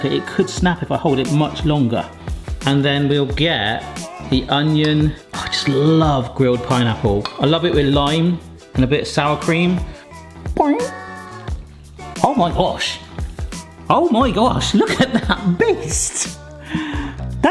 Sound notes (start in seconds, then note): 9.7 vocalising